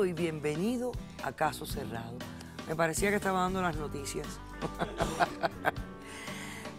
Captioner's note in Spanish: Ríe